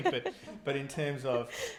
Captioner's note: laughing